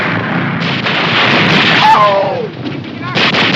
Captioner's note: soldier screams